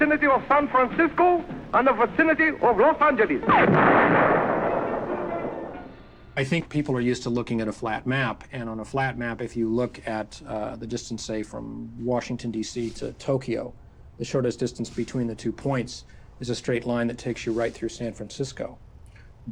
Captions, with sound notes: the vicinity of San Francisco, and the vicinity of Los Angeles! - [gunshot] - [thunder rumbling] I think people are used to looking at a flat map, and on a flat map, if you look at, uh, the distance, say, from Washington, DC, to Tokyo, the shortest distance between the two points is a straight line that takes you right through San Francisco.